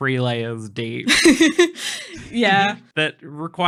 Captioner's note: laughing